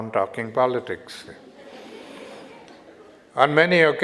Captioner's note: audience Laughter